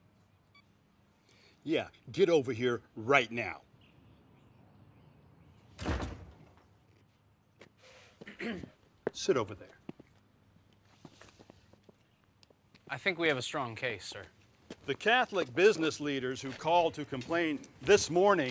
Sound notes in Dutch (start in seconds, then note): 0.4 telefoon pieptoon; 5.7 deur slaat dicht; 8.2 Tommy schraapt zijn keel